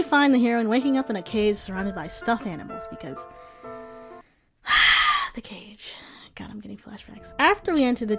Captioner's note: sigh